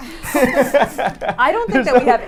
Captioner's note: laughing